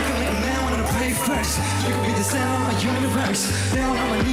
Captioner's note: crowd cheering